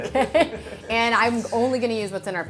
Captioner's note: both laughing